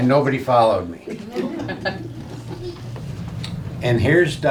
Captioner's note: laughing